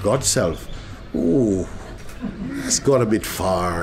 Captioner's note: soft laughter